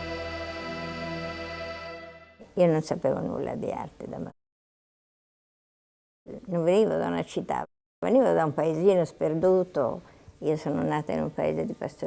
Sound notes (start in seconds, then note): 2.1 speaking Italian